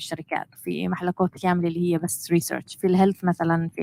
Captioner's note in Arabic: لغة أجنبية; لغة أجنبية